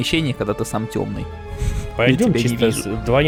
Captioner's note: laughter